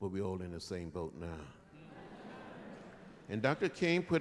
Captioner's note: murmurs, light laughter